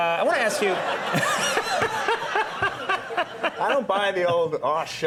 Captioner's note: all laughing